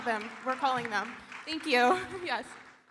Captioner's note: audience applauding